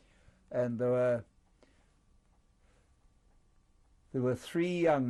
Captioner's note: pauses for 3 seconds